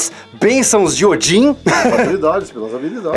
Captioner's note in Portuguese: Risadas